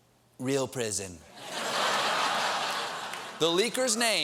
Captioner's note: laughter